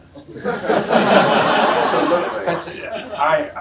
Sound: audience laughs

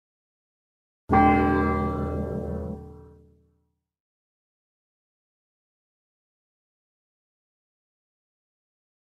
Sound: church bell

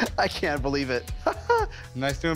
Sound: laughs

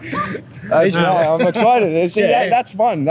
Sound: laughing

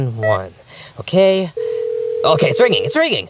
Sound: phone beeps; phone ringing

